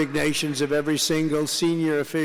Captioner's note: applause